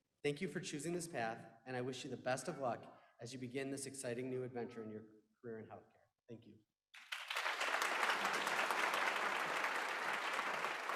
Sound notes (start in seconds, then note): 6.9 applause